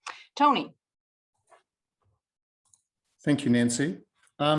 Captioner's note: mouse clicking